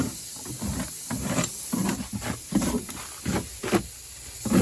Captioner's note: rasp scraping